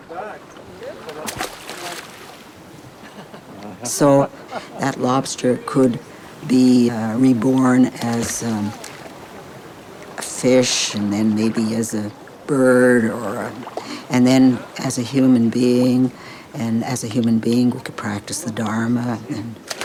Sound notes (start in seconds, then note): 2.8 chuckling